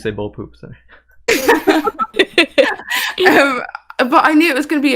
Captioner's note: laughs